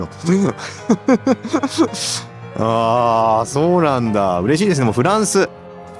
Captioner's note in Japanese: 笑い